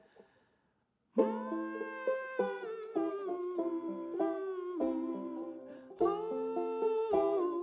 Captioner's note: vocalizing; gentle music